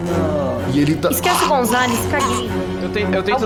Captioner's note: noises of pure agony